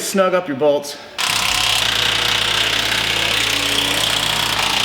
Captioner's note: drill whirring